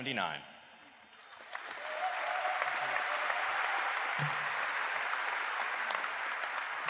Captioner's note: applause